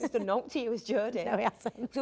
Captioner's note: Jodie laughs